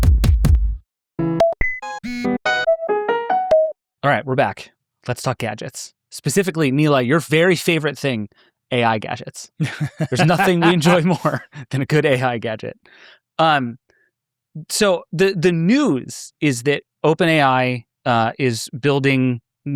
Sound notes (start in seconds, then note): 0.1 electronic music; 1.2 upbeat music; 9.6 laughing